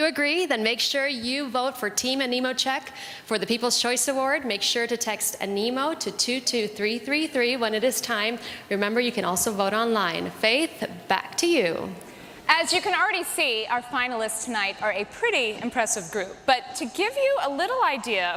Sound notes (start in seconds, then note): none